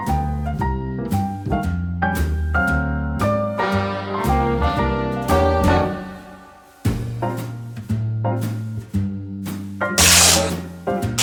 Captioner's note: fabric ripping